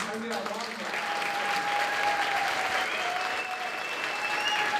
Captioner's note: applause